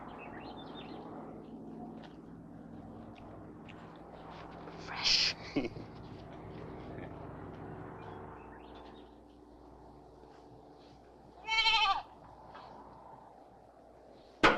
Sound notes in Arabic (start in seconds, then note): 0.0 تغريد الطيور; 5.0 ديفيد يضحك; 11.4 نباح الماعز